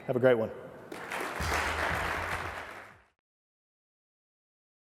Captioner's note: applause